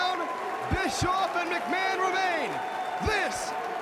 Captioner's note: crowd cheering